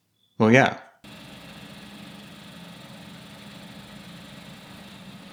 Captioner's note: machinery whirring